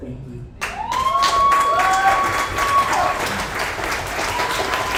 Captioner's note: audience applauds